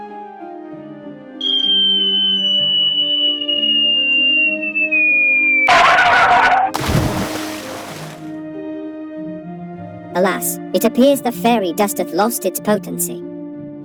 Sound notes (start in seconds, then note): 1.4 descending whistle noise; 5.7 tyre screech; 6.7 splash